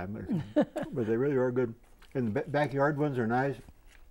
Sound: laughing

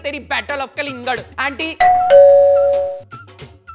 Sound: doorbell ringing

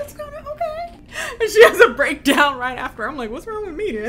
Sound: laughs

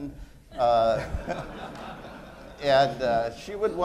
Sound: laughter

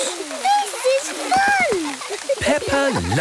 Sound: laughter

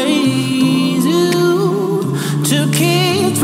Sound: vocalizing

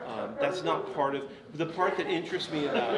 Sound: audience laughs

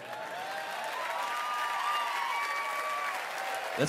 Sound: applause

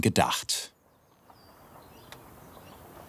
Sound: birds chirping

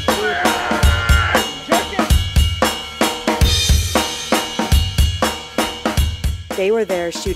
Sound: groaning

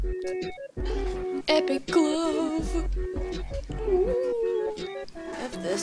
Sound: ghost noises

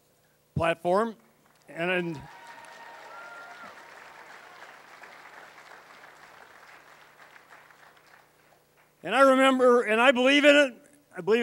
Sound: cheering

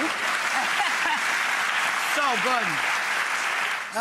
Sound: applause

